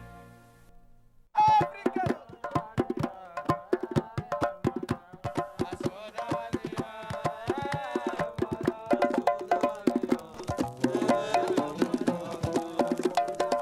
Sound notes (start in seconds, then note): 2.1 drums beating; 7.9 men chanting